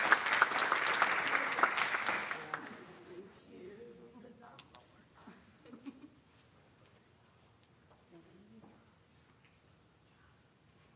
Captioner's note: applause